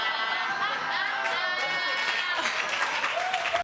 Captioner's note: audience laughing